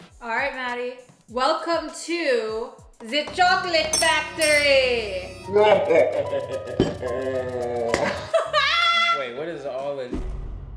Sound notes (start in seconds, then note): 4.8 laughs maniacally; 4.8 scary piano music